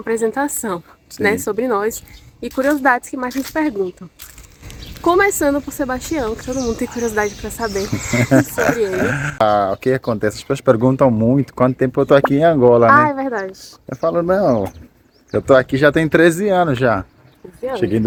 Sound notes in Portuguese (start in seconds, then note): 8.1 risadas